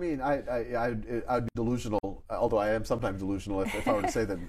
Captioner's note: laughs